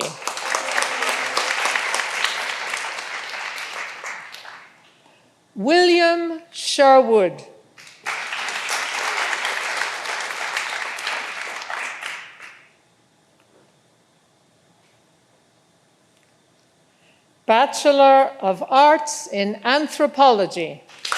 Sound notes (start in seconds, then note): 0.0 all applauding; 7.8 all applauding